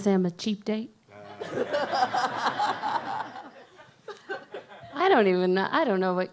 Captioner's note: audience laughs